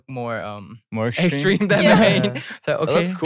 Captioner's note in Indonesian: tertawa